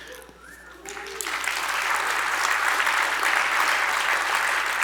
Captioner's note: audience applauding